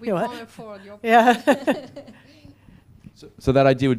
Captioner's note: laugh